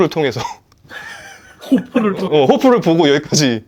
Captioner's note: laughs